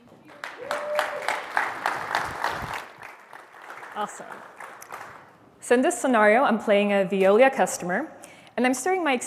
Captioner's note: applause